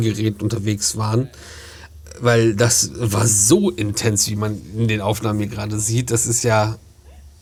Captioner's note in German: schnauben